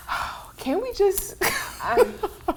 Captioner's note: laughs